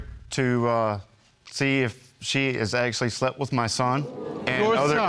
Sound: audience gasping

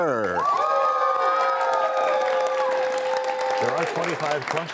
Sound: cheers and applause

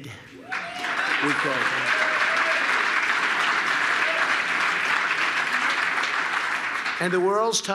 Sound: applause

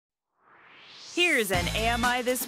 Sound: swoosh

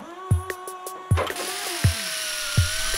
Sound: hammering; drilling; motor whirring

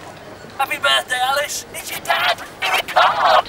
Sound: recording warbles

